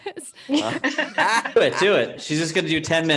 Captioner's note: all laugh